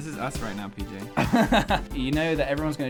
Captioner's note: giggles